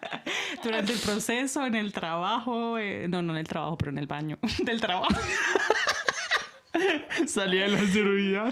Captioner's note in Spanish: risas; risas